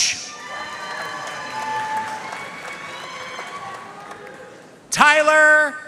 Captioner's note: audience cheering and applauding